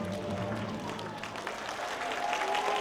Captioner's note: applause